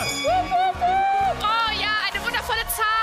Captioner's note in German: Jubel